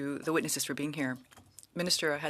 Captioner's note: speaking French